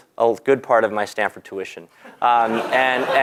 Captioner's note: laugh